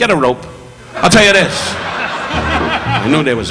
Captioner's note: audience laughing